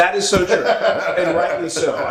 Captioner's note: laugh